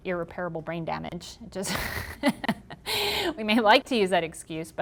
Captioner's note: laughing